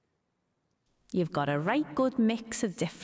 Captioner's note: automated Voice